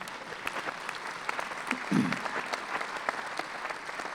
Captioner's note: clapping